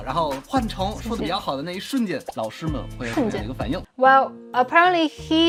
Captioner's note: speaking in Mandarin